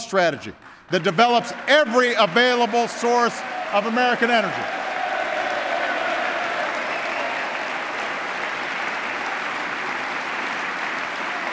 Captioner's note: applause